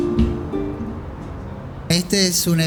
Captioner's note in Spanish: sonido ambiente calle